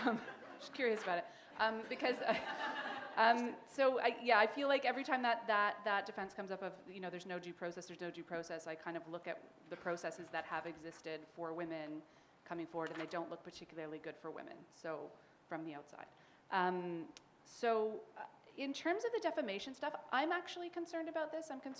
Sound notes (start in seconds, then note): 1.7 laughter